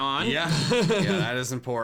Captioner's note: laughing